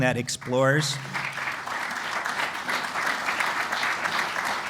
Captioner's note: applause